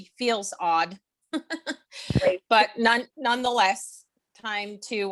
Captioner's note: laughs